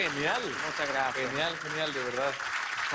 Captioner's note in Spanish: aplausos